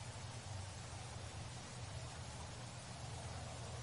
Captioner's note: water falling